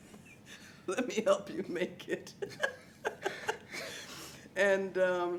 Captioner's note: laughs